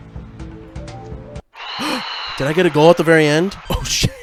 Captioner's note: gasp